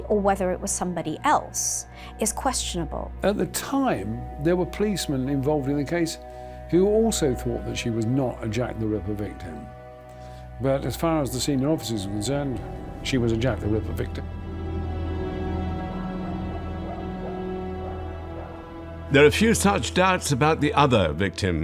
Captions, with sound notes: or whether it was some body else is questionable. - At the time, there were policemen involved in a case who also thought that she was not a Jack the Ripper victim, but, as far as the senior officers were concerned, she was a Jack the Ripper victim. (dogs barking) - There are few such doubts about the other victim